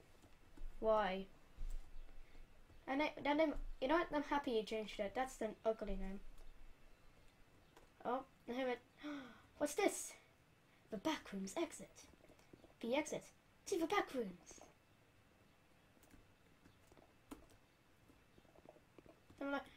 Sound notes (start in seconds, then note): 9.0 gasp